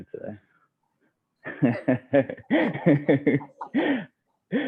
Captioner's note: laughter